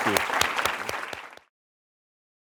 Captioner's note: applause